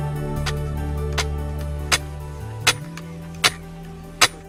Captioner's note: hammer banging